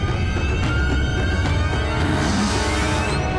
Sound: grunting

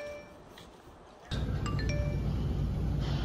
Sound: smartphone Indicator Sound

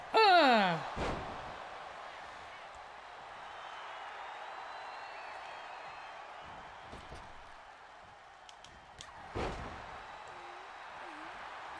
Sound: applause

